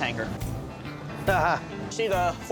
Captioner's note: chuckles